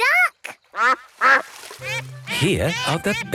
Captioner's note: quacks